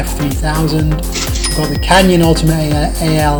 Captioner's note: dings